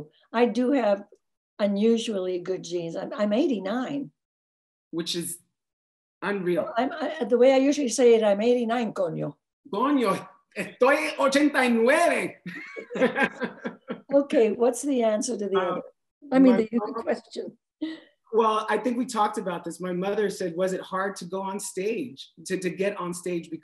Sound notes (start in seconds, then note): 8.7 speaks in foreign language; 12.5 laughs